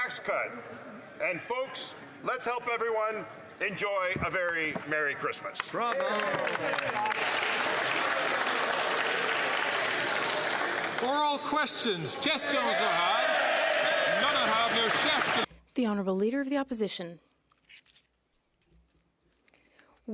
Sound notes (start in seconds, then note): 14.2 some Applause